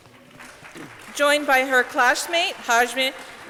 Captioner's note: audience clapping